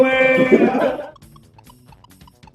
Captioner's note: laughter